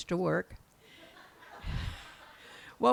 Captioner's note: laughs